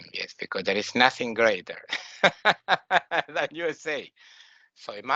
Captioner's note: laughing